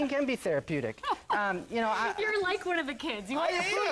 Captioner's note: laughs